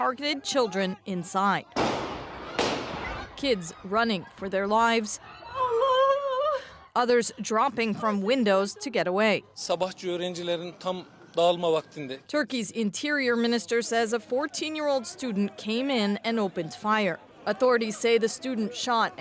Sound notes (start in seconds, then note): 3.6 shots; 12.1 speaking alternate language